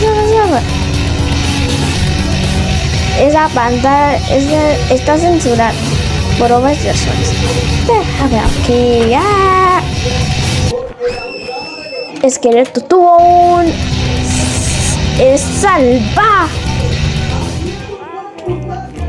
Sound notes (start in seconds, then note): 11.2 ringtone chiming